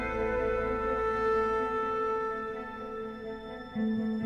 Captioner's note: none